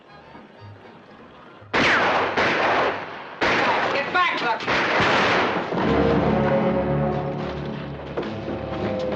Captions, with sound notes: [ FIRING ] Get back, Yukon!